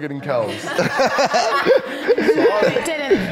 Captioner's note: everyone laughs